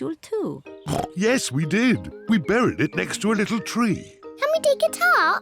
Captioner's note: oinks